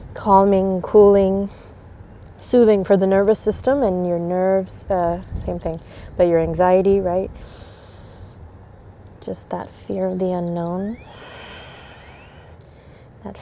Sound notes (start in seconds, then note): 7.4 takes deep breath; 11.1 blows out breath